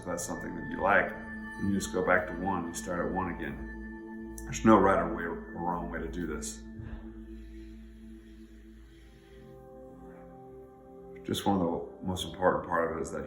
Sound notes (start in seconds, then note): 6.6 breathing deeply; 7.1 gentle music